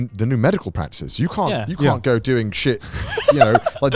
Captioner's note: laughs